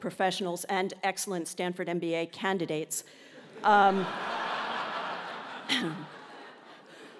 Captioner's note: laugh